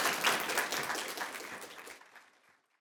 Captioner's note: audience applauds